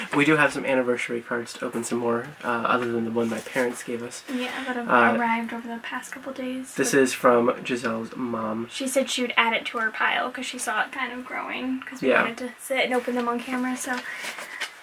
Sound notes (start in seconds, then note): none